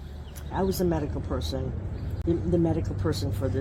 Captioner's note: bird sounds of Stanford campus